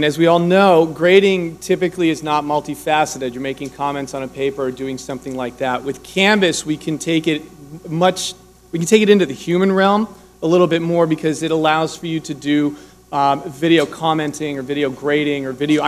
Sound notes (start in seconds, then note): none